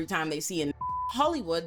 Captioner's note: beep